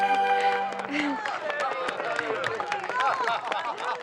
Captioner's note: laughter